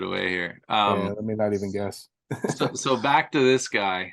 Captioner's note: chuckling